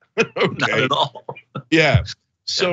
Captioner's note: laugh